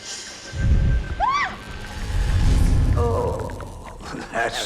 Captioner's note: screaming